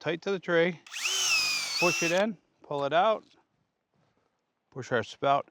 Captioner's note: drilling sound